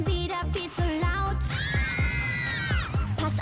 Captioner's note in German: Kreischen